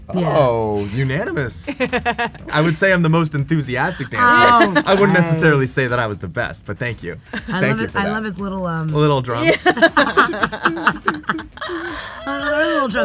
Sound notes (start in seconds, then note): 1.7 Meng'er laughs; 9.4 Awkwafina and Meng'er laugh